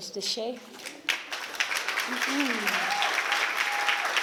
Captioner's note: applause